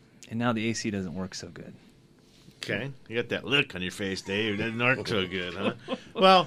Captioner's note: guests laugh